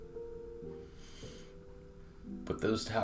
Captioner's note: breathing deeply